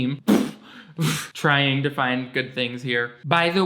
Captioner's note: chuckles